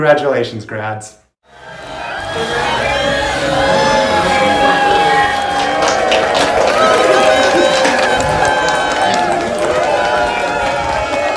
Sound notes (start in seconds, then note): 2.0 cheers and applause